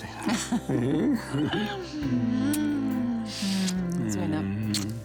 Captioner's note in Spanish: Risas